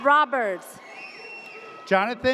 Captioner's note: audience cheers